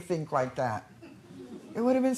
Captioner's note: laughter